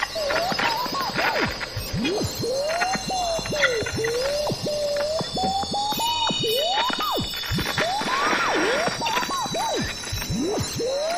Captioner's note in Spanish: Ondas interfiriendo